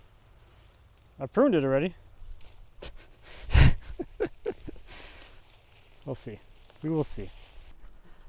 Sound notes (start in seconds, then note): 3.2 laughing